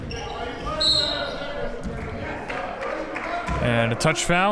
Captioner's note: whistle blows; clapping